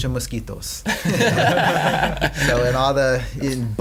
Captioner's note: laughing